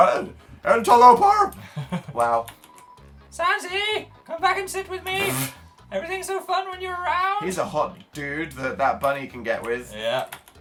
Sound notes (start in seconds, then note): 1.5 chuckles; 3.2 high voice; 5.2 snorts